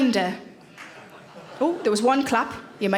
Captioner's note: man claps